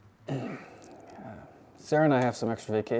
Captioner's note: Robert clears throat